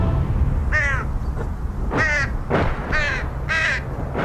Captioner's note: crow caws